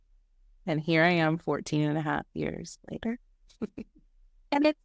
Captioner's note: laughing